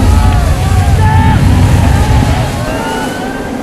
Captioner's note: flooding water from the overhead